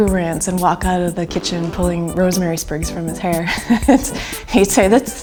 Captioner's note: laughs